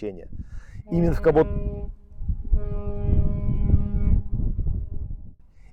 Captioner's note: cargo ship horn